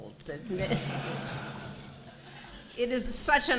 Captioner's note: laughter